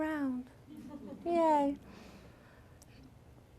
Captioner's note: laughter